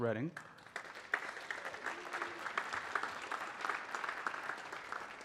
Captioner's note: audience clapping